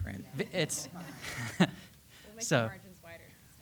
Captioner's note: attendees laughing